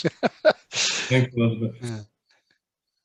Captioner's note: laughs